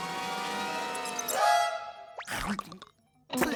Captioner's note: spits